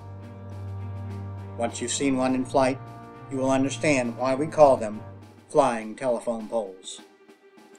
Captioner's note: none